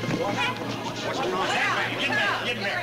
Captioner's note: people chatter